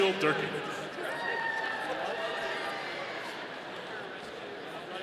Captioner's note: audience cheering